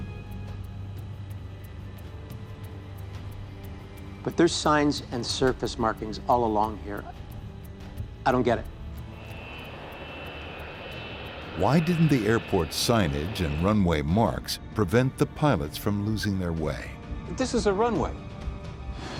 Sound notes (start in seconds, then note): 0.2 sinister music; 9.1 airplane engine roaring